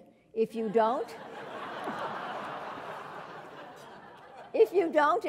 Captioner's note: laugh